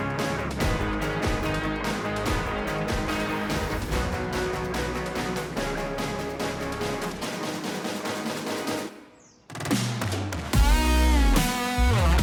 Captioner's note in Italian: Applauso